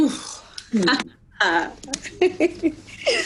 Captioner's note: both chuckle